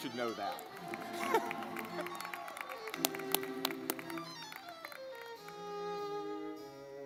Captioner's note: lively music; audience clapping